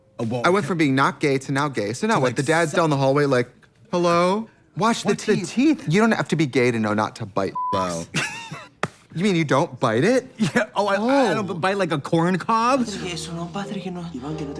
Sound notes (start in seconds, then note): 7.5 beep